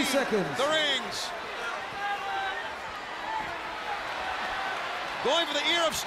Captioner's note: crowd chatter